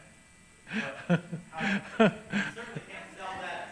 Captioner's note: laughs